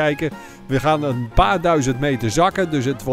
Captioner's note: voiceover